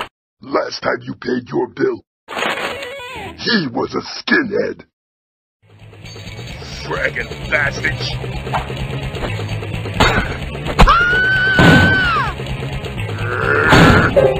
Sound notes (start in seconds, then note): 10.8 screams